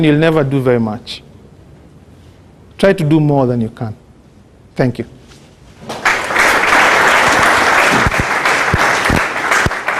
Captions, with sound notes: you will never do very much. Try to do more than you can." Thank you. [Clapping] End of Audio